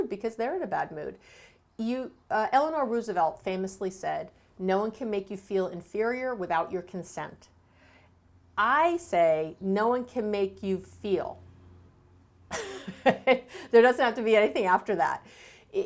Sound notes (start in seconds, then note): 12.5 laughs